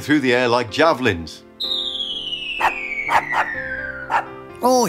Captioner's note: swooshing sound, dog barks